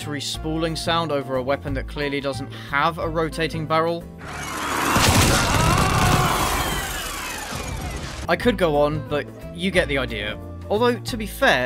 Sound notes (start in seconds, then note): 4.2 spooling barrel sound